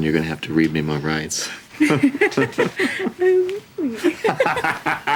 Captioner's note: laughter